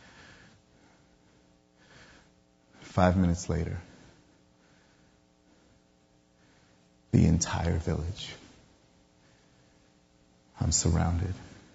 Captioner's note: yelling